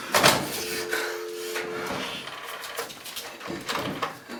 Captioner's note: dial tone